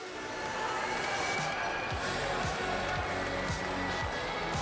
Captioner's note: crowd cheers, whistles